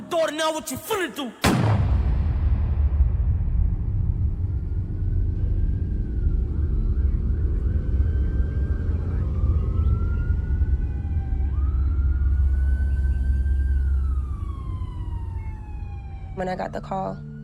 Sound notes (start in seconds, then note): 1.4 gunshot; 5.4 siren wailing